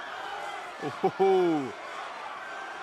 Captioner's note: crowd cheering